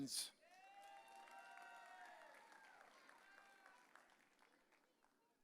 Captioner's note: audience cheering